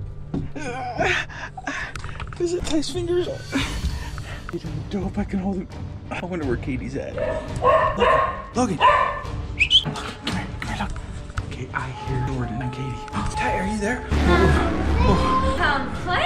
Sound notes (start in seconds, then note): 0.0 mysterious music; 7.1 dog barking